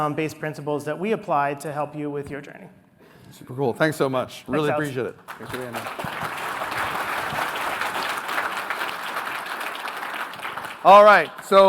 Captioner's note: applause